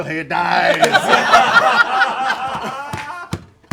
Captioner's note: laughter